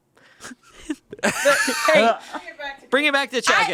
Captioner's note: laughs